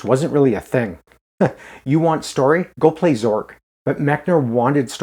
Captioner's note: chuckles